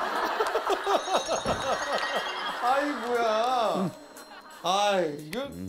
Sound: everyone starts laughing as they enters the max room

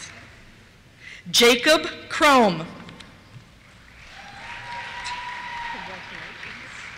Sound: cheers

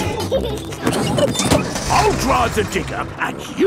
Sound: peppa and george laughing

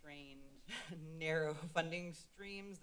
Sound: laughs

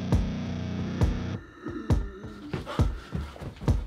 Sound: heavy wheezing

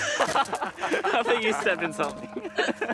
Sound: group laughs

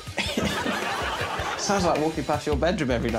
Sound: laughs

